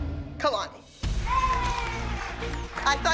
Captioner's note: girls cheering